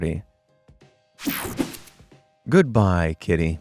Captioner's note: graphic whooshing